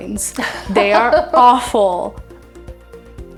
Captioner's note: laughing